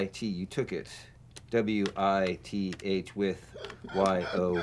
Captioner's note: chuckling